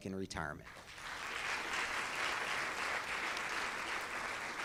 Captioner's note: audience claps